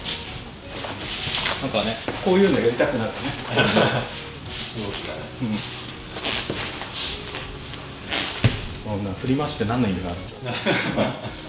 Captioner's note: laughs